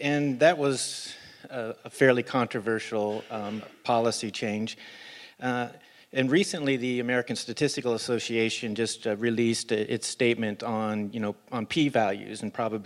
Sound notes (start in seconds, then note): none